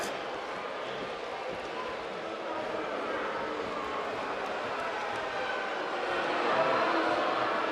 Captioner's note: crowd booing